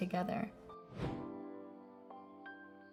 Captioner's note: wind whooshes; somber music